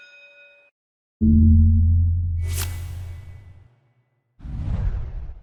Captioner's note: school bell ringing; air whooshing